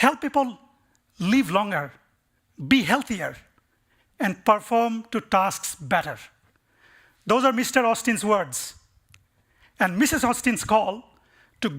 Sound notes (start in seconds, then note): none